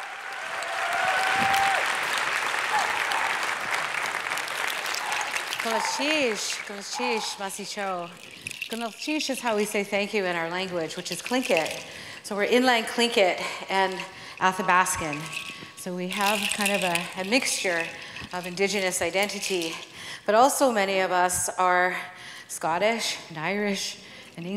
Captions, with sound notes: (applauds) (foreign speaking) (foreign speaking) Is how we say thank you in our language, which is (foreign speaking). So (foreign speaking) and (foreign speaking), so we have kind of a mixture of indigenous identity. But also many of us are Scottish and Irish, English.